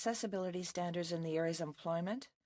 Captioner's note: speaking French